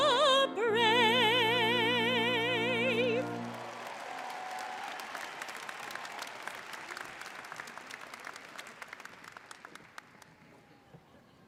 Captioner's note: applause